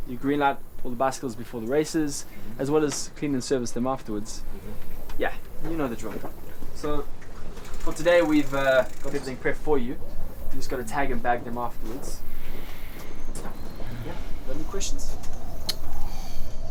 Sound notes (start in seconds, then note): none